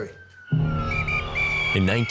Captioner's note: whistle blowing